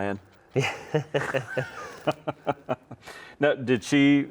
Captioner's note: both laugh